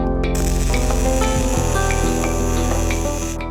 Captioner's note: drill whirring